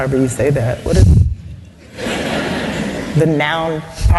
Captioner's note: laugther